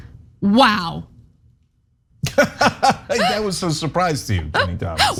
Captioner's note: laugh